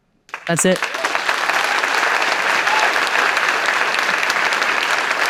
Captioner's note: applause